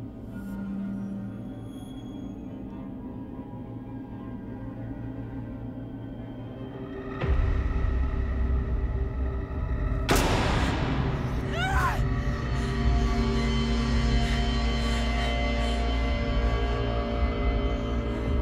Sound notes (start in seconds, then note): 6.6 dramatic music; 9.5 banging; 11.4 Sage screams; 13.2 dramatic music; 13.2 heavy breathing